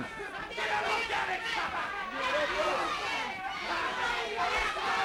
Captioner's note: crowd yelling